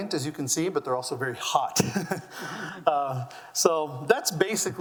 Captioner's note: laughs